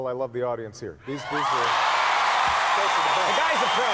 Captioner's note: audience cheers and applause